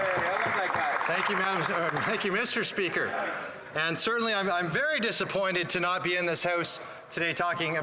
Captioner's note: applause